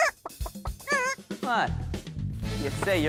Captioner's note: hen clucks